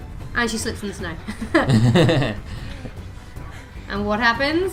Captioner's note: singing; laughter